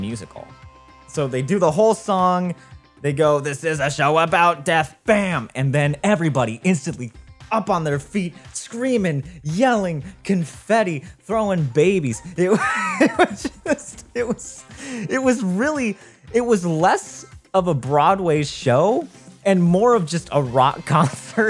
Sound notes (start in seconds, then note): 12.5 laughs